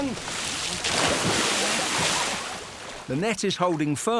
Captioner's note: water splashes